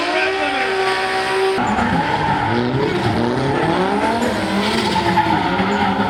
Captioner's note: cars revving loudly